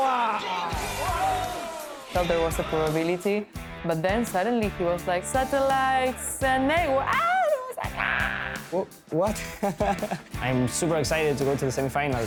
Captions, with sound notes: (cheering) - I thought there was a probability, but then suddenly he was like, "Satellites, and Eywa." (screaming) - I was like, ahhh! - What? (laughing) - I'm super excited to go to the semifinals.